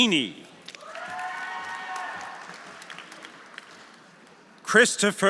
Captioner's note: audience applauding; audience cheering